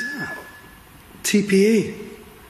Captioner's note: beeping